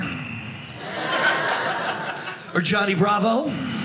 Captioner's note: audience laughing